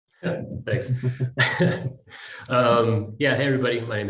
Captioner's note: all chuckle